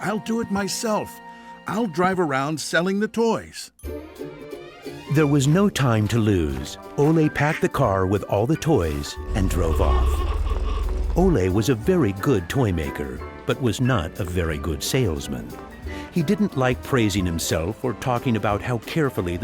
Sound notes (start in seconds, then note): 9.3 horn honks